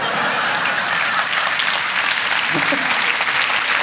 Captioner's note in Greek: χειροκρότημα; γέλια